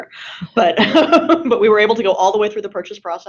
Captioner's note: laughing